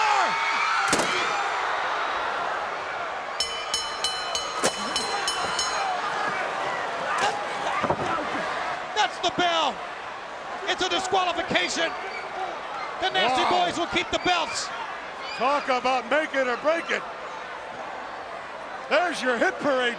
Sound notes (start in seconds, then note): 0.2 crowd cheering; 3.4 bell ringing